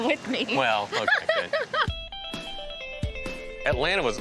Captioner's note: chuckles